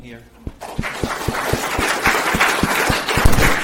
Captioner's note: clapping